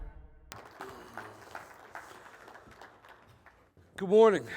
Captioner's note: applause